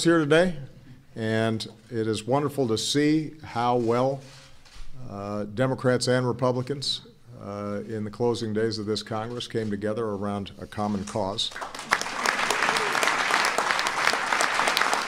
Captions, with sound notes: here today, and it is wonderful to see how well Democrats and Republicans in the closing days of this Congress came together around a common cause. [APPLAUSE]